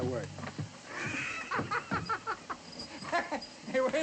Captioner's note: laughs